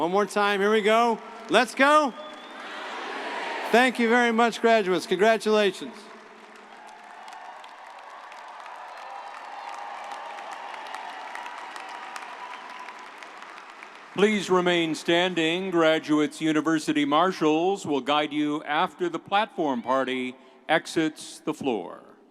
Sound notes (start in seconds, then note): 6.7 audience cheering; 8.5 audience applauding